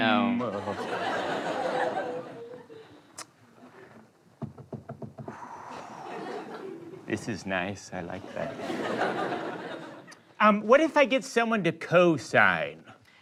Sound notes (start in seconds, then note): 4.4 taps fingers; 5.2 exhales